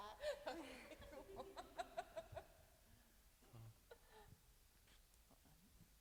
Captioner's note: laughing